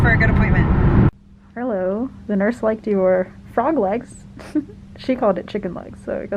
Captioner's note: laughs